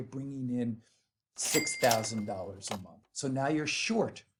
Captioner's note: bell dings